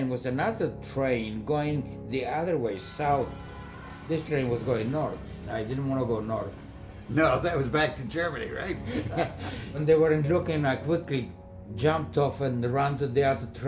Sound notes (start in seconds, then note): 2.7 train horn